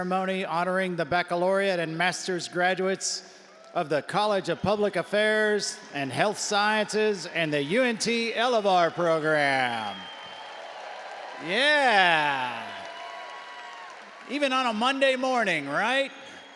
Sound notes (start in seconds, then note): 10.0 audience applauding and cheering